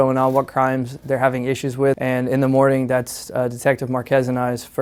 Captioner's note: none